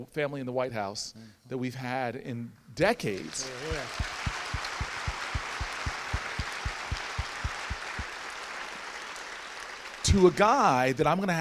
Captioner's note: audience applauds